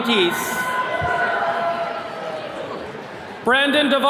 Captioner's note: attendees cheering